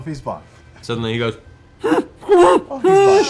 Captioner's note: muffled panic noises